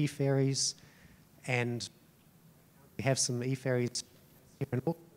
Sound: audio cutting out

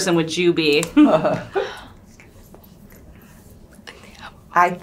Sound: chuckles

